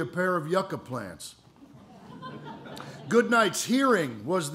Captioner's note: laughter